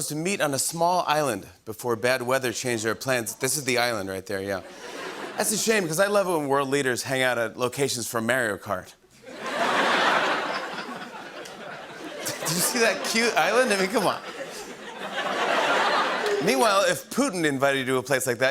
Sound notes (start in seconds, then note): 9.2 laughter